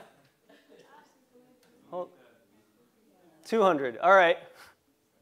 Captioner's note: laugh